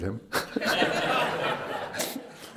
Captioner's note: laughter